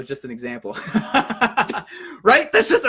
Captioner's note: laughs